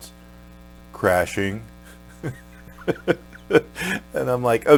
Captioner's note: laughs